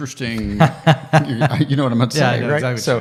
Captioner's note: laughing